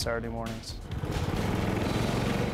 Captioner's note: engine puttering